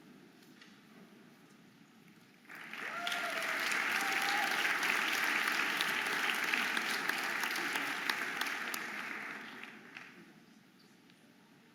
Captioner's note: audience applauding and cheering